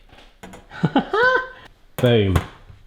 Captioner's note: laughs